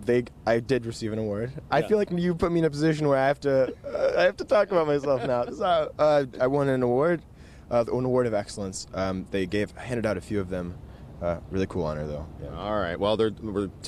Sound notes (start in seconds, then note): 3.5 laughter